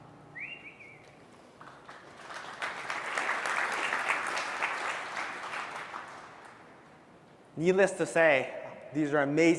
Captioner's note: applause